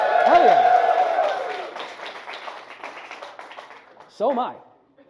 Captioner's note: audience whoops and applauds